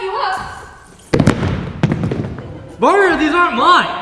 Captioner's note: galoshes slam to the floor